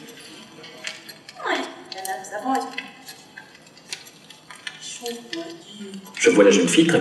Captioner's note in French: voix étrangère